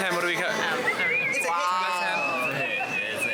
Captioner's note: person whistling